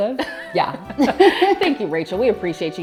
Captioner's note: laughs